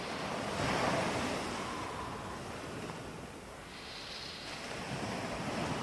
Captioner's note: breathing in and out through the nose